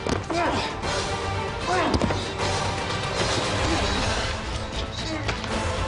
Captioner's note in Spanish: Quejidos